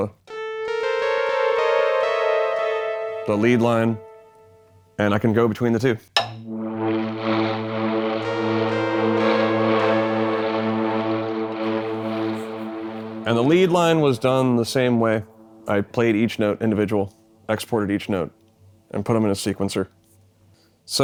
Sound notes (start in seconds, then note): 0.3 mysterious music; 6.2 drumstick clacks; 6.4 synthesizer warbling